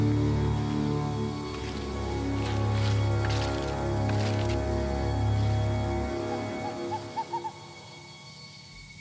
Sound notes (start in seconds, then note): 0.5 leaves crunching